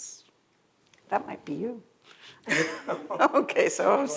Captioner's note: laughs